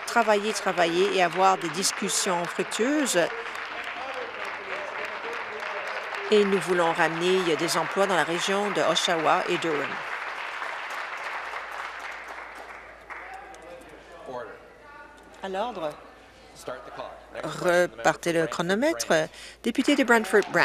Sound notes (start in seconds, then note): 5.6 applause; 12.2 applause